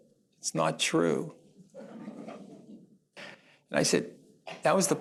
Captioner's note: laughter